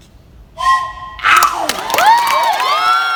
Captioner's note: train whistle noise; wild applause